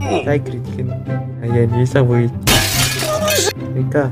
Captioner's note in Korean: 쨍그랑